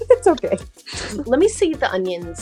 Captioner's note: laughs